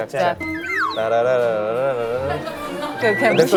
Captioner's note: crying